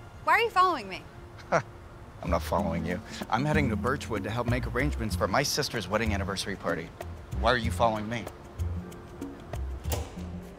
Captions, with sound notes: Why are you following me? (scoffs) - I'm not following you. I'm heading to Birchwood to help make arrangements for my sister's wedding anniversary party. Why are you following me?